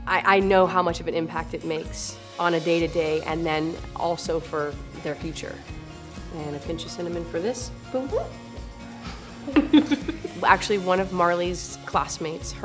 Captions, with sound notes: I know how much of an impact it makes on a day to day, and then also for their future. And a pinch of cinnamon for this. Boom. (chuckling) Actually, one of Marley's classmates,